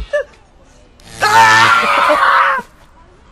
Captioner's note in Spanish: Gritos